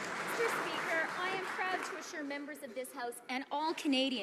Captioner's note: some Applause